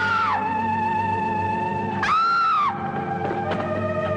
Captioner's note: screaming; dramatic music